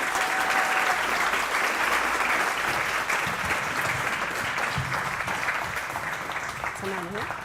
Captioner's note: applause